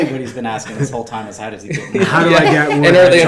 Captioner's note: laughing